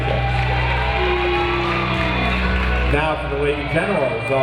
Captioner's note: audience applauding and cheering